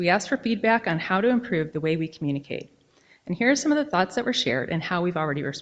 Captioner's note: none